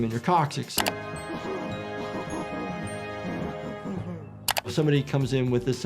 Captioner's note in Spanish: continúa la música valiente; Lumpy ríe